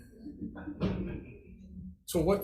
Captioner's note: group chuckling